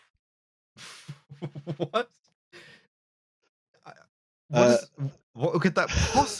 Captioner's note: laughing